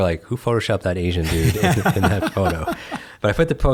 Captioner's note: laughs